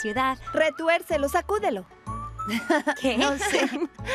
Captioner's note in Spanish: riendo